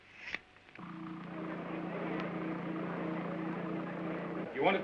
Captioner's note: humming sound & faint chatter